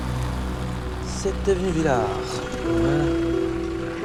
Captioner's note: speaks french